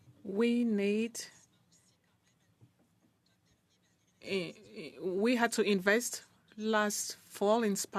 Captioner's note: speaking French